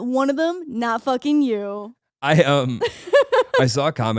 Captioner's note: laughing